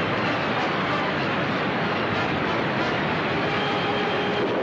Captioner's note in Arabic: تصفيق الرعد